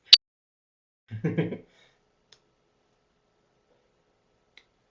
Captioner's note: speaker laughing